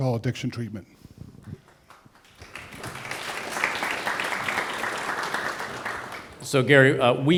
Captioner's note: applause